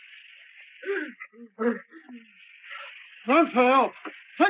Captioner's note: Partridge gasps